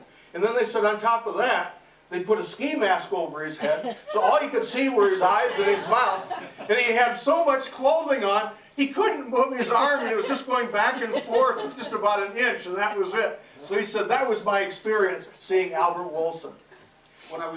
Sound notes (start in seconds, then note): 5.3 laughter